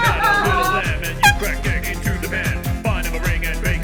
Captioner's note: splat